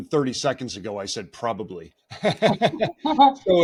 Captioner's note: laughing